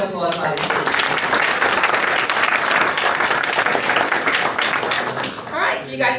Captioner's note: applause